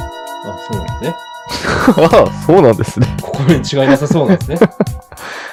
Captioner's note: both laugh